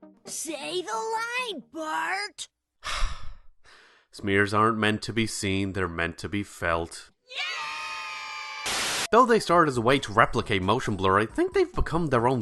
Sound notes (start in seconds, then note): 2.8 sigh